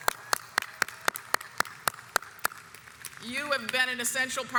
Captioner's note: audience applauds